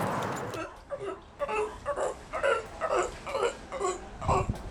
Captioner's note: dolphin grunts